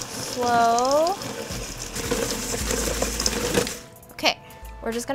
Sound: mixer roaring

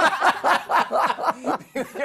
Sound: laughter

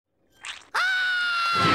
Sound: screaming

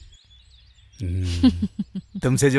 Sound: laughs

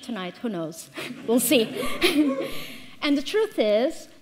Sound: all laughing

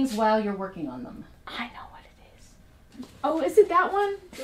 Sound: whispering

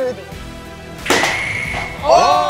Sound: smoothie exploding

